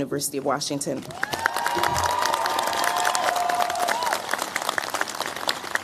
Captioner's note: cheers, applause